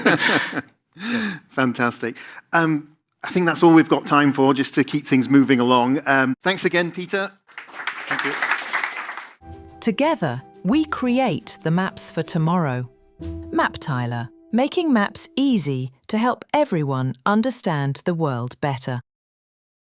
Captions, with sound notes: (laughs) (laughs) Yeah. Fantastic. I think that's all we've got time for, just to keep things moving along. Thanks again, Peter. (clapping) Thank you. Together, we create the maps for tomorrow. MapTiler, making maps easy to help everyone understand the world better.